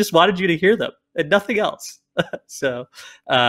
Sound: laughs

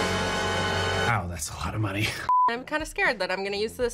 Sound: dramatic music; chuckles

